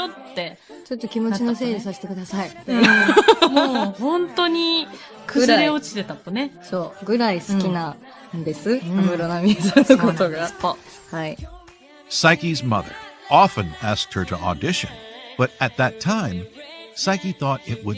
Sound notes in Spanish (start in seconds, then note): 0.0 risas